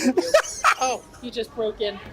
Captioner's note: laughs